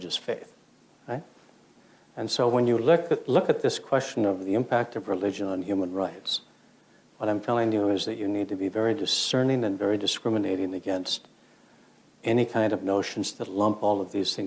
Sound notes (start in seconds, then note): none